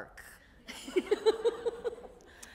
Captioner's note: laughter